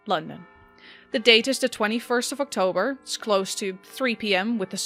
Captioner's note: bells begin to chime in the background